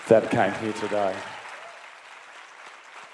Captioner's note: applause